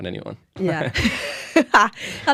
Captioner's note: laughter